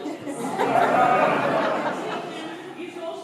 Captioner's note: laughter